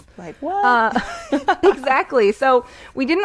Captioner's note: laughing